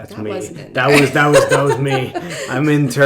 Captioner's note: laughing